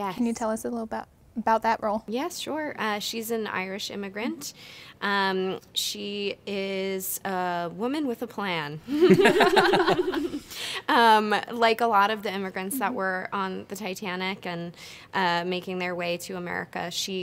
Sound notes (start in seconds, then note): 8.9 laughter